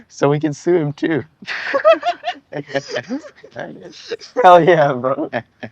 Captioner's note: both chuckle; both chuckle